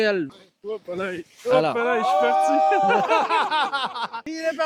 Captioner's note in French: rires